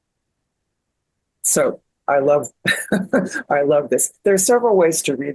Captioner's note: laughs